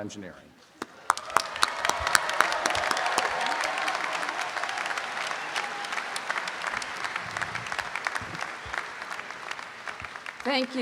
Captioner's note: students clapping and cheering